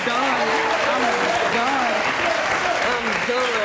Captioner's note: audience clapping